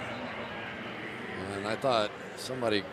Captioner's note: pa announcement